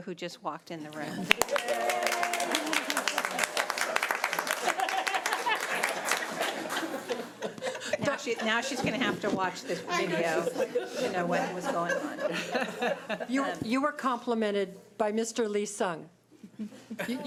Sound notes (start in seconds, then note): 1.2 audience applauds